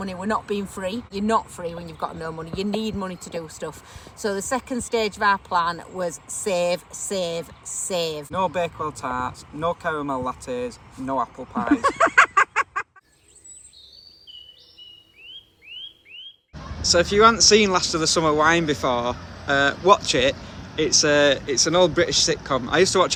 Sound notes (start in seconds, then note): 11.6 laughing; 13.0 birds singing